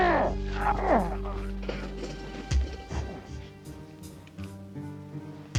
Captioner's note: executive groaning